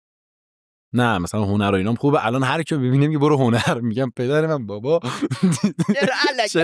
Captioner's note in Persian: خنده